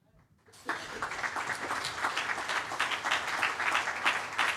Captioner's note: attendees applaud